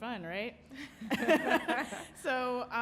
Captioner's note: panelist laughing